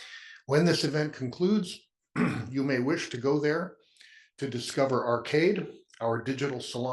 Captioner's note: cough